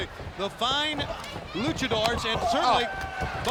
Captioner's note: blows thudding